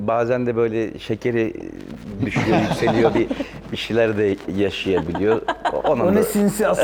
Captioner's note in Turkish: kahkaha